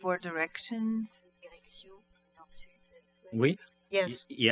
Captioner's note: speaking french